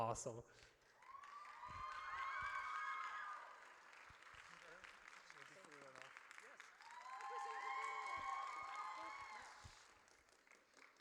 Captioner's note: audience cheers